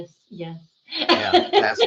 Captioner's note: laughing